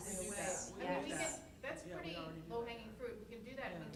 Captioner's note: voiceover